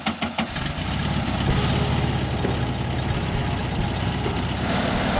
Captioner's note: Beetle engine rumbling